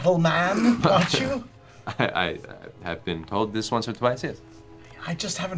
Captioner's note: chuckles